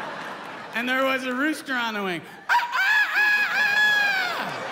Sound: crows like a rooster

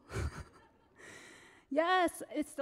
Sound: Kaioshin laughs

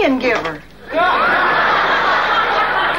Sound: audience laughing

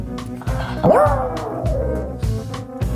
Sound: dog howling

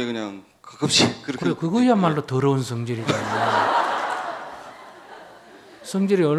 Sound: audience laughter

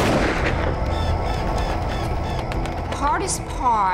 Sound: gunshot

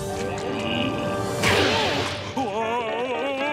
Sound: grunting

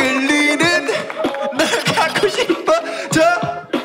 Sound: Tertawa

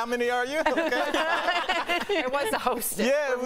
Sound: laughter

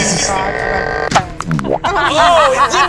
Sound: gadget creaks and launches; laughs

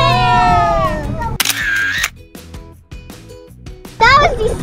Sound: camera clicks

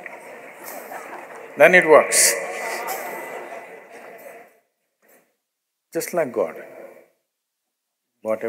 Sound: laughs

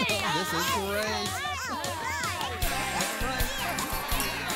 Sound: chatter Continues

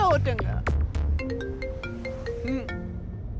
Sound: phone ringing

